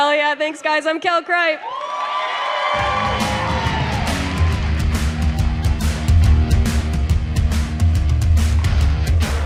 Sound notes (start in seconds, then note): 1.4 crowd cheers and applauds; 5.8 upbeat rock music